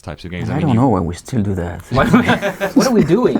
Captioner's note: laughs